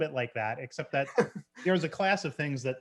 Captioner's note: chuckles